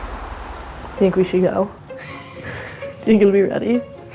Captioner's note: laugh